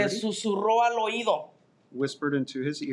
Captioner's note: speaking in Spanish